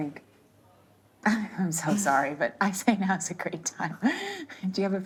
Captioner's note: laughing